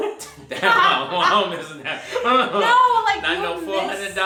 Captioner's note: laughing